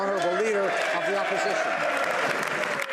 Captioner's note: speaking French